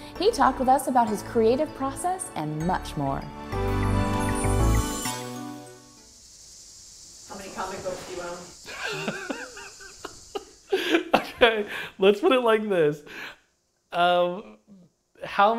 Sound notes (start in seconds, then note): 8.6 laughter